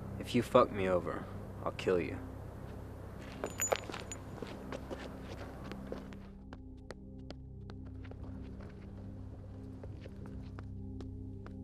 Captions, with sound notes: - If you fuck me over, I'll kill you. (footsteps receding) (tense music)